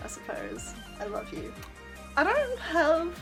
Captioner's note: mwah